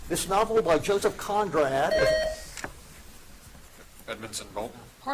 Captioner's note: buzzer dings